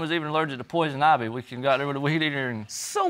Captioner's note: stammering